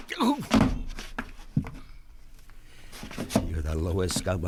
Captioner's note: hand slaps